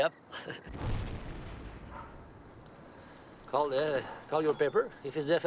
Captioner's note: laughs; explosion blasts